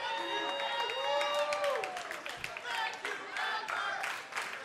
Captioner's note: cheers and applause; fans chanting